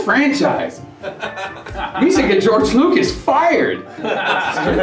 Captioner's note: laughter